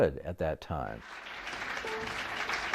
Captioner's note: applause